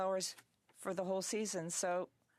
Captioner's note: speaking French